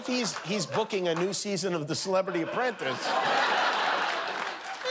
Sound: laughter

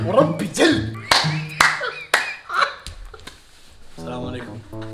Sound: laughing breathlessly

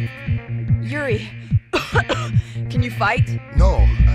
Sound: coughs

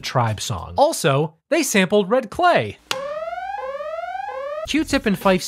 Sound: sirens wailing

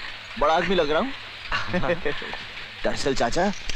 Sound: chuckles

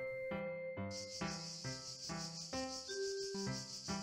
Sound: cicadas screaming again

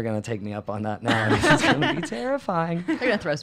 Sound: laugh

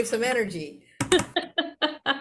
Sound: laughter

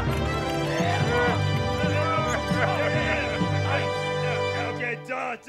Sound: pulley screeching; triumphant music; Muppets exclaiming

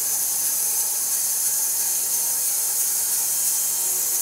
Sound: saw whirring

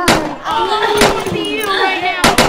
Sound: popping

